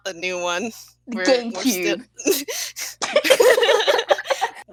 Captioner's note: laughing